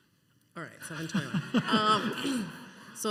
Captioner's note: laughter